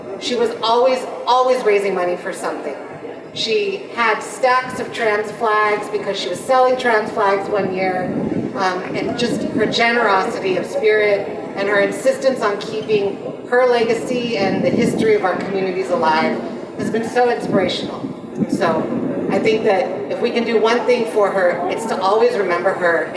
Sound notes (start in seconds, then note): none